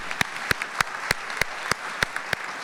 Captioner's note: applause